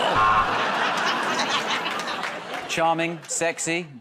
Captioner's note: buzzer